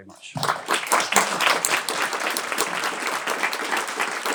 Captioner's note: applause